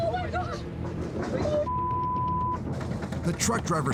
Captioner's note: beep